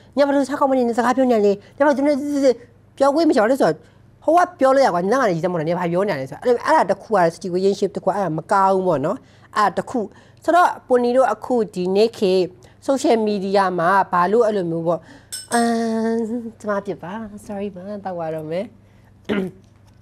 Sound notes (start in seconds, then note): 15.3 clink clink